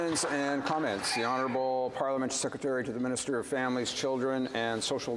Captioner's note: some applause